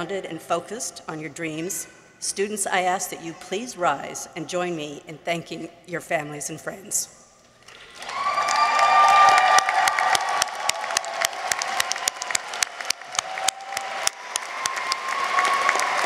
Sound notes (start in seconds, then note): 7.7 audience applauds; 7.8 audience cheers